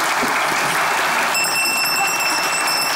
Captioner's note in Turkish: Zil sesi